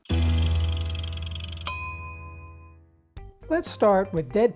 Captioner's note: dinging; lighthearted music